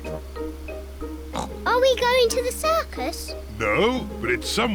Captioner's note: oinks